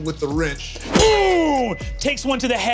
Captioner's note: wrench clangs